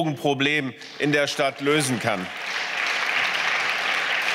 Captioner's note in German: Beifall